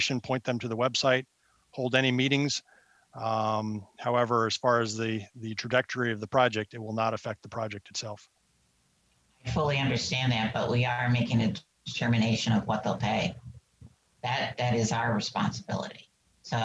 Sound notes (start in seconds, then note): none